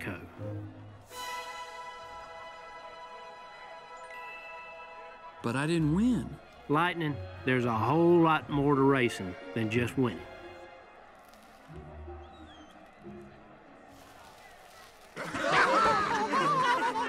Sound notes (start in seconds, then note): 0.3 soft music; 3.6 twinkling; 15.1 laughing; 15.2 giggling